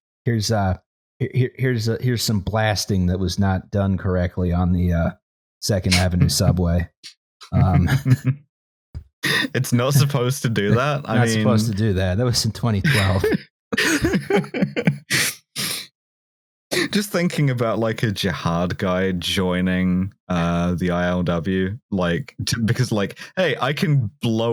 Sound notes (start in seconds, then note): 7.4 chuckles; 13.7 laughter